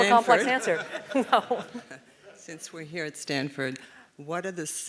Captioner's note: laugh